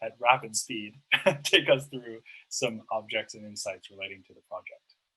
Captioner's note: laughs